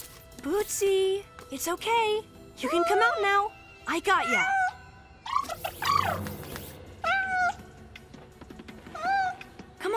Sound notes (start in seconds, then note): 4.2 meowing; 5.6 trilling; 7.0 meowing